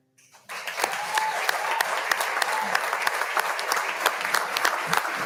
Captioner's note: audience applauding